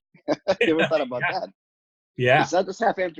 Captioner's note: both laughing